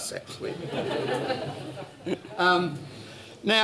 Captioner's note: laughter